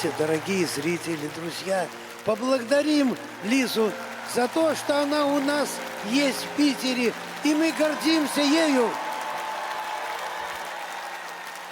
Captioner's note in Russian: аплодисменты; аплодисменты